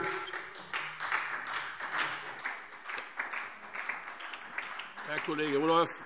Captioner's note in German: Beifall